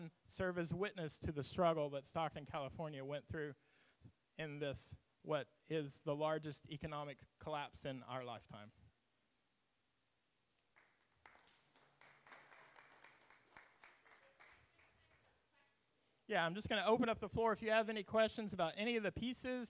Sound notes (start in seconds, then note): 10.6 audience claps